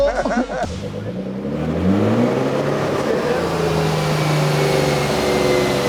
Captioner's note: car engine roaring